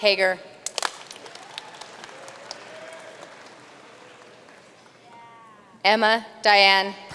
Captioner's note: audience cheering and applauding